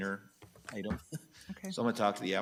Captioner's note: chuckles